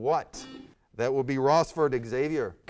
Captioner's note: buzzer sounds